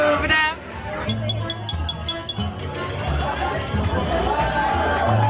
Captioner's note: glasses clinking